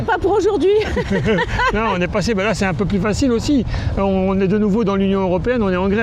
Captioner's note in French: rires